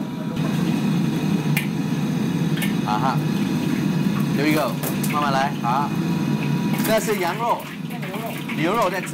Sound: speaking Chinese over loud kitchen fans

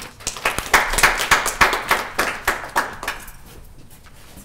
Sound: applause

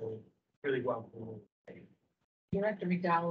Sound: speaking faintly

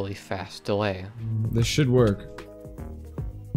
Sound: damage sound

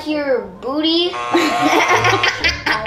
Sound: buzzer buzzing; laughing

